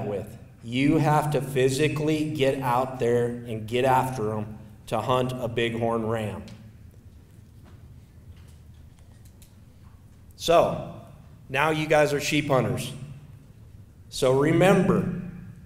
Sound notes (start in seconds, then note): 7.3 silence